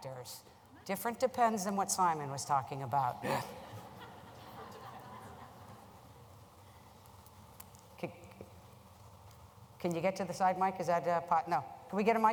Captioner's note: laughter